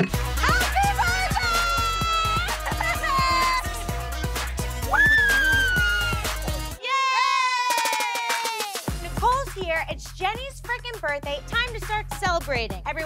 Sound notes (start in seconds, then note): 2.5 pop music; 4.9 screams; 5.1 pop music